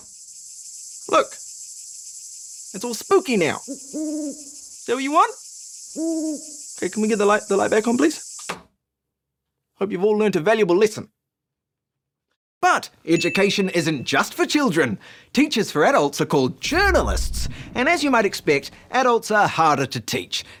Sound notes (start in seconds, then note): 0.0 insects buzz; 3.5 owl hoots